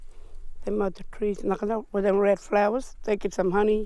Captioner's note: speaking foreign language